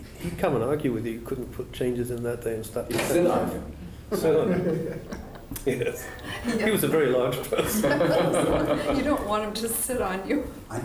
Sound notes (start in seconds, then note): 4.1 laughter; 7.5 laughter